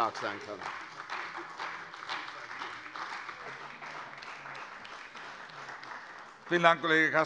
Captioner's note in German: Beifall bei Abgeordneten der CDU